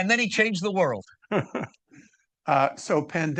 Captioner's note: laughing